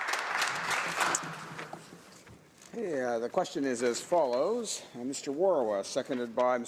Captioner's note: some Applause